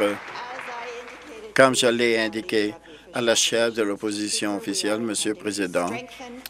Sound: applause

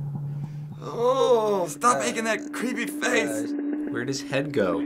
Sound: disgusted moan

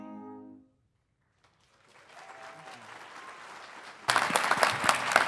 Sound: audience applauding

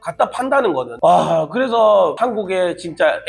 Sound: sigh

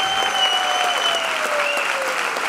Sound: applause

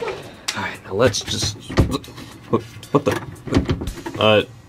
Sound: door handle rattling

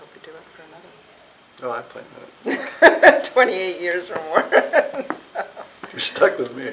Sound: laughing

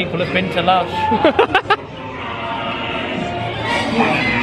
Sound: laughs

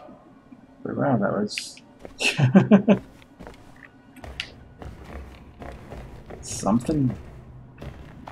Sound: chuckles

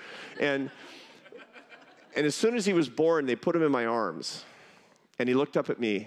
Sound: laughter

